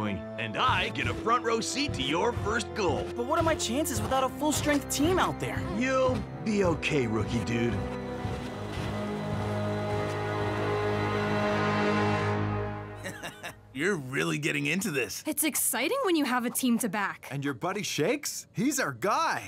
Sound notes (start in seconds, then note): 8.8 tense music; 13.0 chuckling